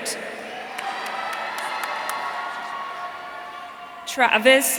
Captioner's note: audience cheering